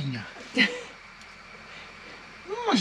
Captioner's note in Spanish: risas